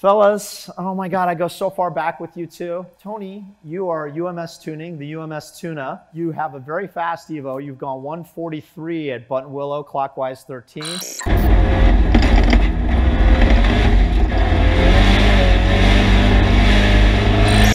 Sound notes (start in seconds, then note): 11.4 car rattling; 13.9 engine roaring